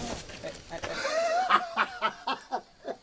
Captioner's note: mean laughter